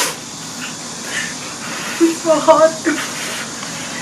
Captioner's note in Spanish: soplando